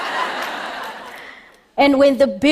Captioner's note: laughter